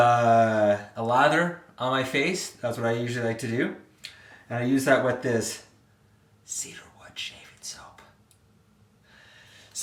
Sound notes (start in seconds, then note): 6.2 whispered